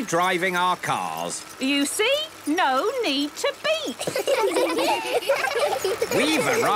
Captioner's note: laughter